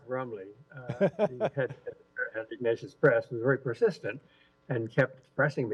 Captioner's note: laughter